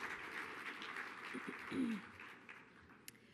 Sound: applause

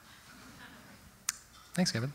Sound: audience: Laughter

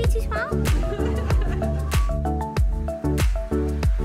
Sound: mom laughs

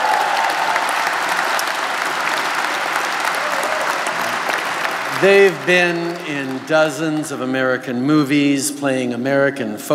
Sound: cheers & Applause

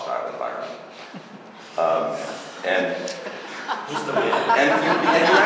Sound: laughter

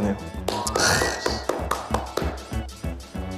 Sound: applause

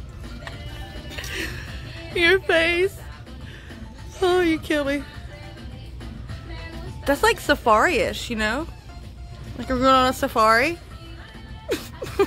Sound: is dying of laughter; continues to laugh

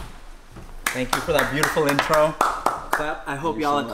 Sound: man claps

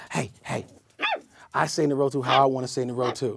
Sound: yapping

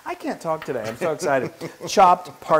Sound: laugh

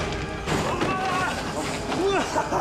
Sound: grunts

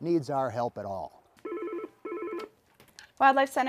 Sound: phone rings

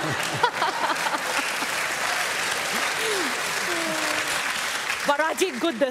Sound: laughter and applause

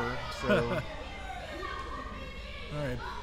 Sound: crowd yelling

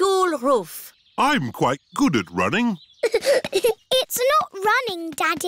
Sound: giggling

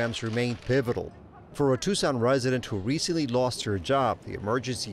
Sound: people chattering

